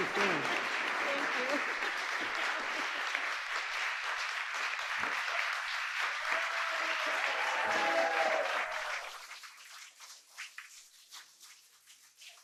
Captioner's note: applause